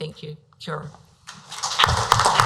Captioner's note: speaks foreign language; applause